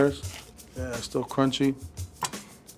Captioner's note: egg roll crunching